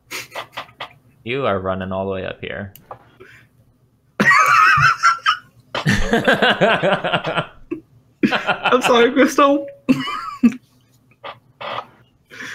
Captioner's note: laughter